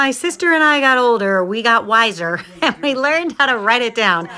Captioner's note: laughs